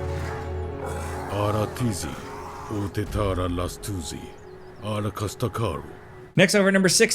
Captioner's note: Trico roaring; narrator speaking in foreign language